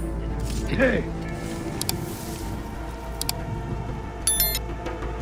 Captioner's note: mouse clicks; dramatic music